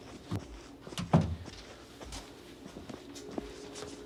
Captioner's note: door creaking; door slamming